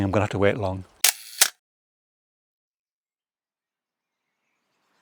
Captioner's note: click, click